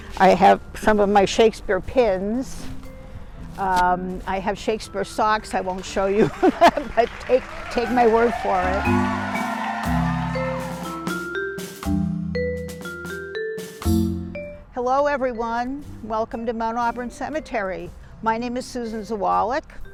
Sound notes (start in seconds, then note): 8.7 applause